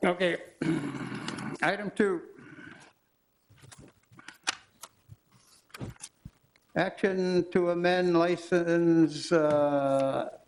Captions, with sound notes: Okay, (clears throat) Item Two, (pages fluttering) action to amend license premise description